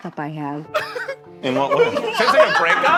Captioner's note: Zach laughing